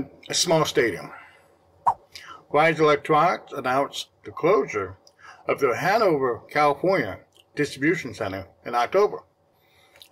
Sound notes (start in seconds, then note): 1.5 swipe Sound